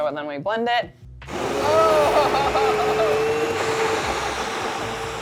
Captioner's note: blender whirring